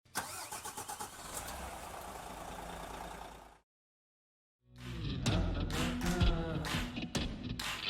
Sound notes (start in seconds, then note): 0.2 egine revving; 4.7 upbeat music